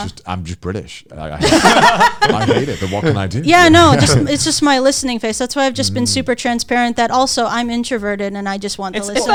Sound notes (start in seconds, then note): 1.4 all laughing